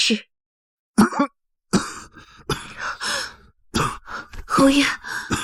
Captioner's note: cough cough cough